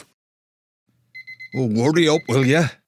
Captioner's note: alarm sounds